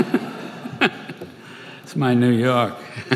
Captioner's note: laughter; laughter